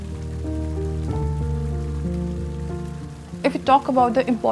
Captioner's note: water pouring in the courtyard